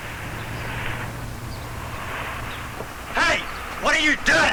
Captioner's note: car engine revving; birds chirping